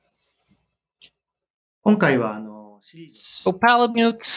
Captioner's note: speaking japanese